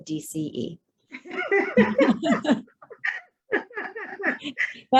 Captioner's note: laughs